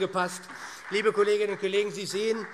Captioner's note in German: Beifall SPD